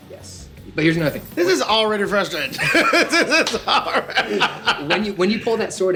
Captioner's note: laughs